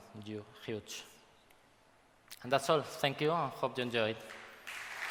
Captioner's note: applause